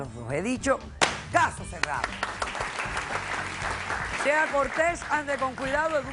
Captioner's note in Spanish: Aplausos